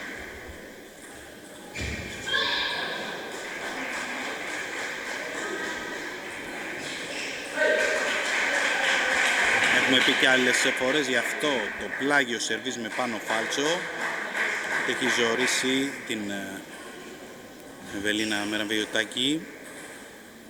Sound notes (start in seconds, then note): 7.4 applause